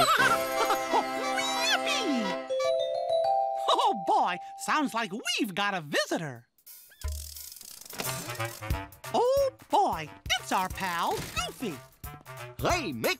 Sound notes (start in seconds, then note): 3.1 pretty bells ringing